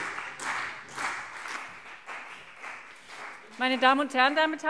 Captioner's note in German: Beifall CDU und vereinzelt BÜNDNIS 90/DIE GRÜNEN